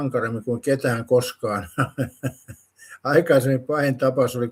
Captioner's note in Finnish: naurua